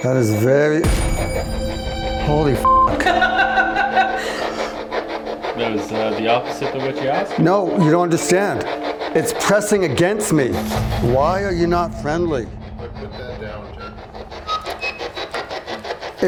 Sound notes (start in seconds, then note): 1.0 intense dramatic music; 2.9 beeping; 4.1 group laughs; 13.4 electronic static hissing